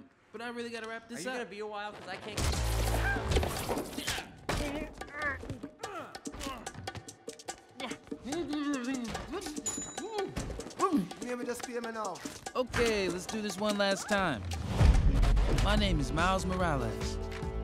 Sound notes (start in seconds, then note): 4.6 grunting and groaning; 16.3 lively music playing